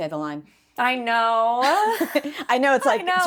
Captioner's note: laughs